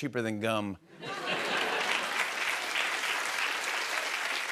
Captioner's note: laughter and applause